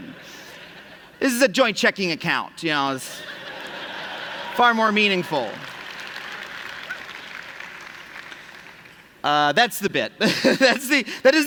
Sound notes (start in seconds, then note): 3.1 laughter; 8.7 applause